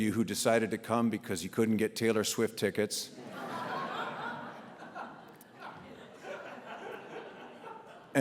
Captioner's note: audience laughs